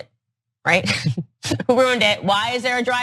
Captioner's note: laugh